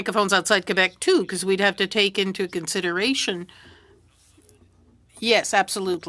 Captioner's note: speaking French